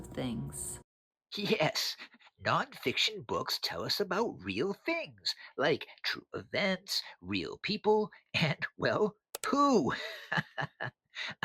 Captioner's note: laughs